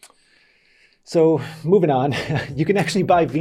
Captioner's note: laughs